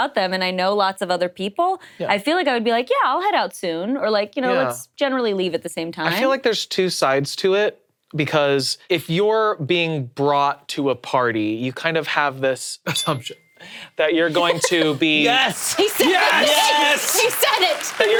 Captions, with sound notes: and I know lots of other people, I feel like I would be like, yeah, I'll head out soon, or let's generally leave at the same time. - I feel like there's two sides to it. Because if you're being brought to a party, you kind of have this assumption (bell dings) that you're going to be- - Yes! - He said it, he said it! - Yes!